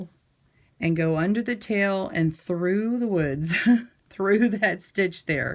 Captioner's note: laughing